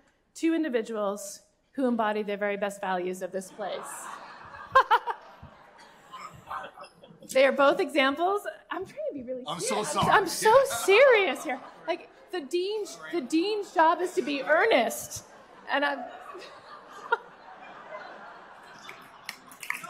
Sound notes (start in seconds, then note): 3.5 laughter; 16.4 laughter; 18.7 applause